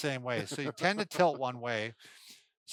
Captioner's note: laughs